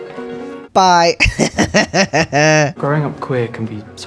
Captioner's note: laugh